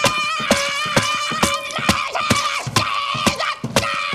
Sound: screaming, wailing; shouting gibberish

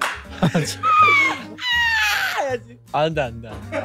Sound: shrieking

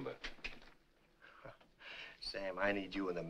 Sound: chuckles

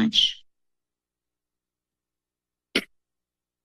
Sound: silence

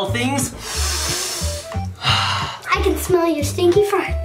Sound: deep breathing

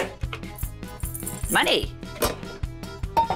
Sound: jingling; clattering

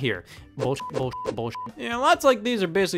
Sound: beep

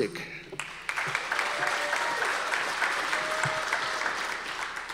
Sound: audience applause

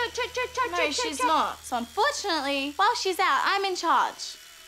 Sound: makes helicopter sounds

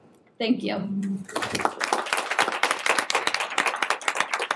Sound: applause

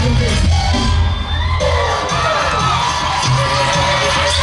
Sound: crowd cheering

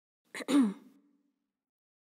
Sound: Roxy clears throat

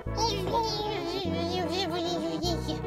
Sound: angery bnny noises

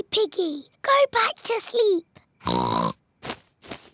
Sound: oinks

